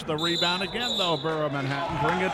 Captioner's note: referee whistling